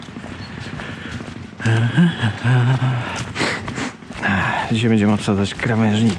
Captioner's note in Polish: śpiewanie pod nosem